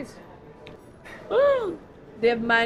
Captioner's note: gasps